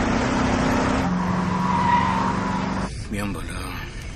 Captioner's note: tire screeching